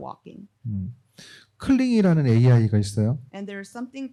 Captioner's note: speaking korean